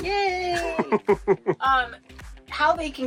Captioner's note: laughing